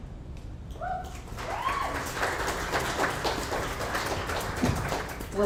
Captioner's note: audience applauds